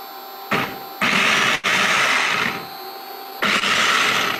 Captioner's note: processor whirring